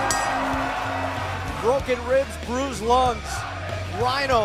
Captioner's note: bell rings